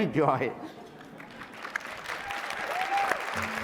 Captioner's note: applause and cheering